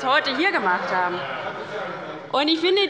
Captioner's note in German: Heiterkeit bei der LINKEN und der SPD